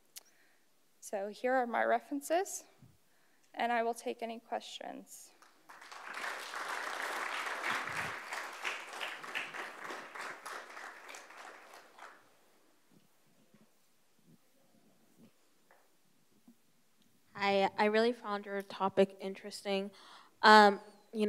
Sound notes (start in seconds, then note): 5.4 crowd applauds